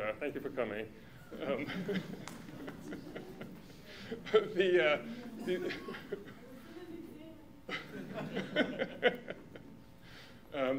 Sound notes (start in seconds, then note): 1.4 laughter; 7.7 laughter